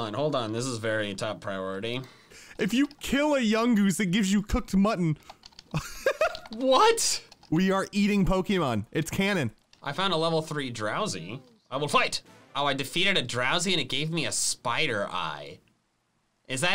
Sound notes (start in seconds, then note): 5.6 laughing